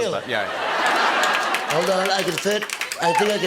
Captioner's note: As Trump